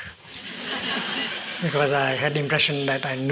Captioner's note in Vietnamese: tiếng cười